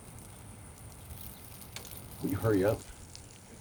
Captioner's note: urination trickling